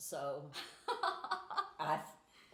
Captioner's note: laughing